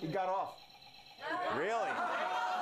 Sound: laughter

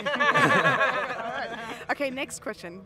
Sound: laughter

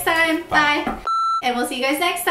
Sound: beeps

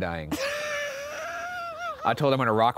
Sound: laughs

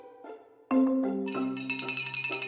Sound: bell Ringing

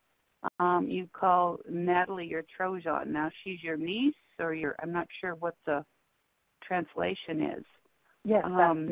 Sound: speaks indigenous language

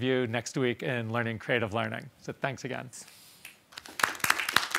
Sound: applause

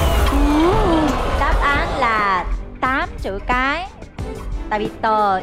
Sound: Tiếng Anh

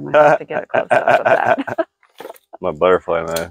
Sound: laughing

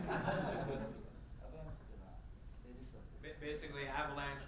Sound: speaking in foreign language

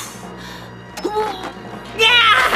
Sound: <i> breathing deeply</i>; <i> grunts</i>; <i> screams</i>

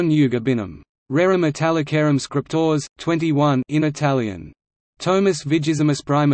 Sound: in Italian

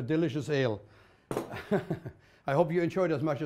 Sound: chuckles

